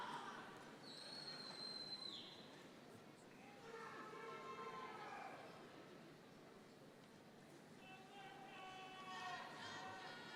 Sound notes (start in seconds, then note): none